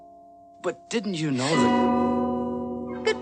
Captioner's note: bell rings